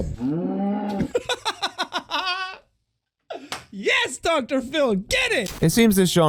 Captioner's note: laughter